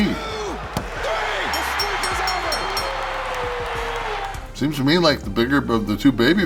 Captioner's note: applause